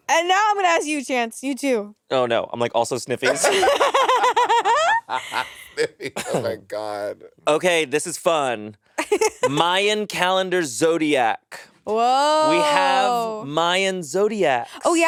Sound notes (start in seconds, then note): 3.2 laughing; 9.0 laughing